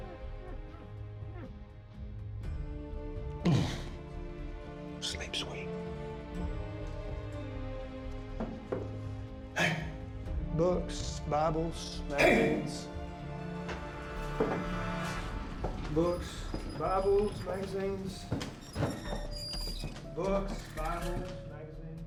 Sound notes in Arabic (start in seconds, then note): 3.4 ارتعاشات من الاشمئزاز; 4.5 همس